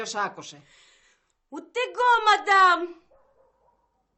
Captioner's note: foreign accent